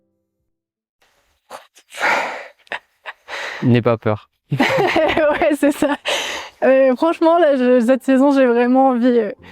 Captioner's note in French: rires